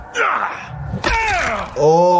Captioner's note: Homelander grunts; Omni-Man grunts; bones crunch